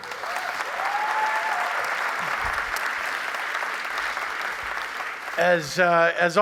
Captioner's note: applause